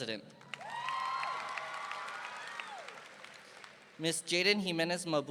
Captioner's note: audience applauding